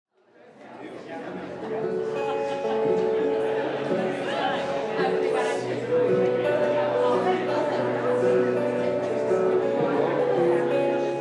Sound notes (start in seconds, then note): 0.4 audience chatter; 2.9 guitar song starts playing